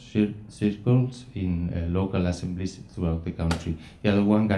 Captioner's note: speaking foreign language